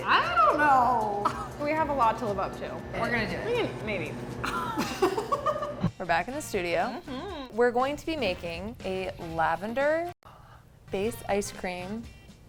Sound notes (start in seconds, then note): 4.4 both laughing